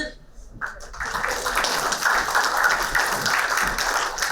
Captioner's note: applauding